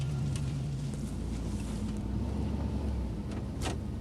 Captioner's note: car engine revving